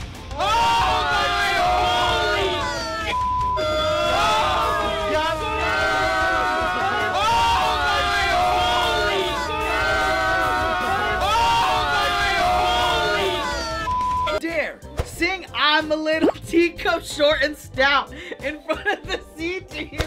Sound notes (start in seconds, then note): 0.3 all exclaiming; 3.5 exclaiming continues